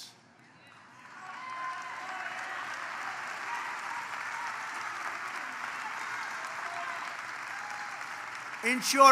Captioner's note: applause